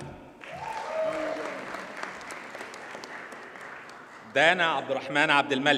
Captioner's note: audience cheers and applauds